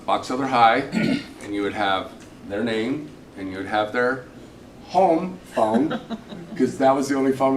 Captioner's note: clears throat